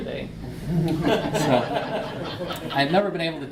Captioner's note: audience laughs